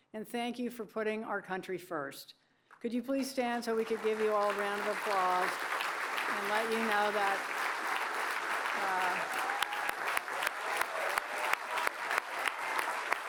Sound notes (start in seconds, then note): 7.5 applause